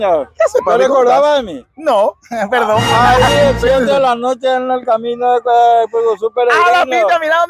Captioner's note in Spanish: risas